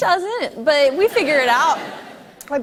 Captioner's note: light laughter